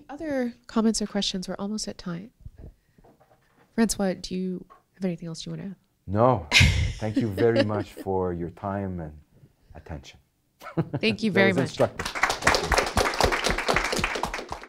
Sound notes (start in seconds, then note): 6.5 woman laughs; 11.4 audience applauding